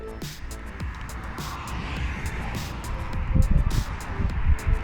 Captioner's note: traffic